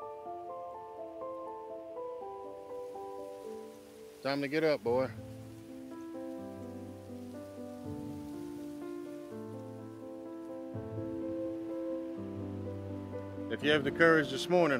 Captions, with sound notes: Time to get up, boy. (gentle music) (wind gushing) (gentle music) If you have the courage this morning,